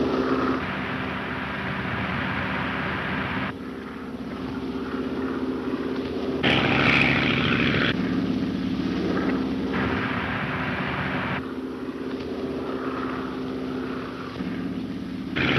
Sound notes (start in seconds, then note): 1.0 engine puttering; 6.6 engines roaring